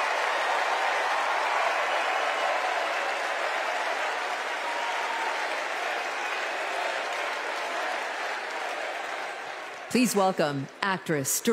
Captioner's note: cheers and applause